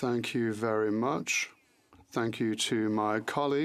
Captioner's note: speaking French